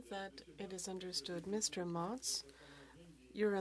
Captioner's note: speaking French